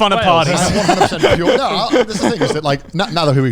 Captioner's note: laughing loudly